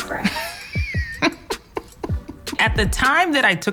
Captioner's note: chuckling